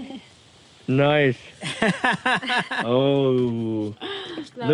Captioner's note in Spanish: La risa